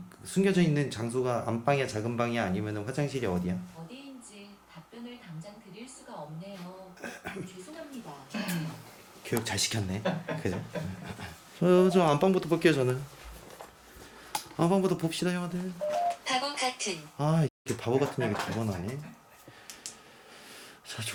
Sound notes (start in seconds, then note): 7.0 are coughing; 10.1 laugh